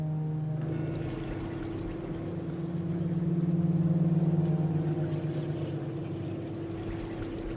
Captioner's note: pensive music; engine rumbling; water splashing